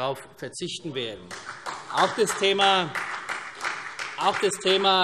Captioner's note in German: Beifall CDU und Freie Demokraten